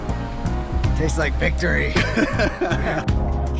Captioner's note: laughing